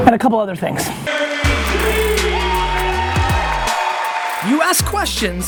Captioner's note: cheering